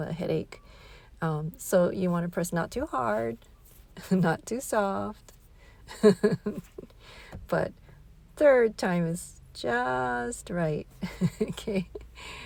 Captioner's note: laughing